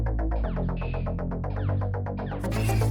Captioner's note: glitching noise